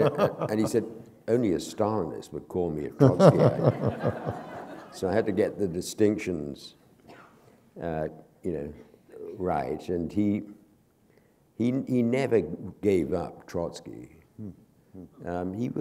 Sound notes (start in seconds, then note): 0.0 laughter; 3.0 laughter